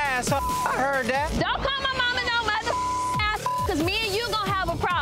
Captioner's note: beep; beep